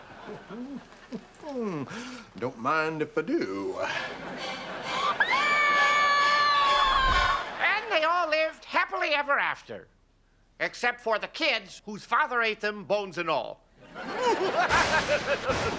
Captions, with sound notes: Don't mind if I do. [screaming] And they all lived happily ever after... except for the kids whose father ate them bones and all. [laughing]